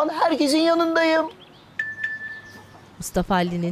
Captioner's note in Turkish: Mesaj zili sesi